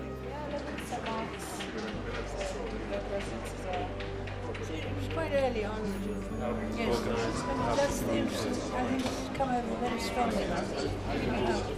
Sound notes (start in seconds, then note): 0.1 gentle instrumental music; 1.4 people chattering